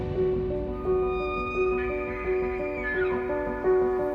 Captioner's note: elk bugles